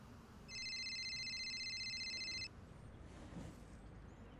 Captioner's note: cellphone ringing